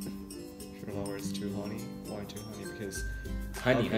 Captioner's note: whispering